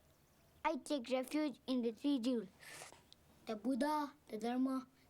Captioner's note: slurping